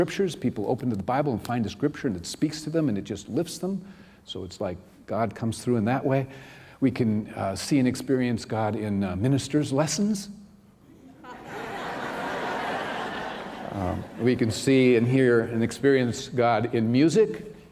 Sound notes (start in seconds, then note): 11.1 laughter